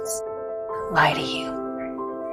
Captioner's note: voiceover